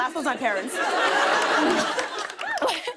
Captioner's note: laughter